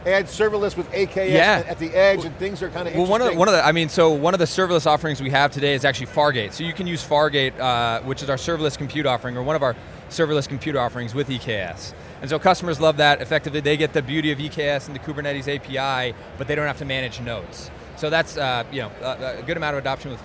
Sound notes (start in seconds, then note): none